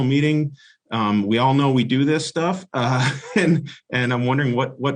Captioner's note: laughs